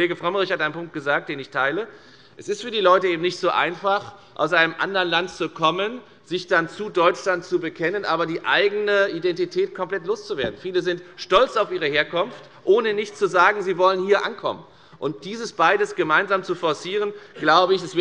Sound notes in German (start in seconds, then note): none